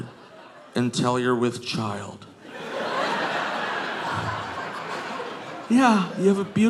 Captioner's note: audience laughing